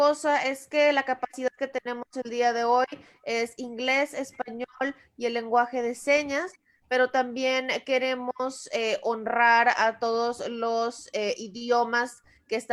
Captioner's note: Spanish